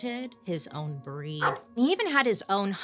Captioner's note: dog barking